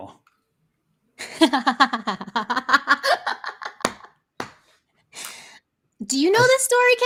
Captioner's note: laughs; hands clapping